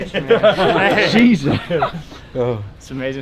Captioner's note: all laugh